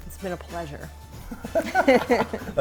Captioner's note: laughing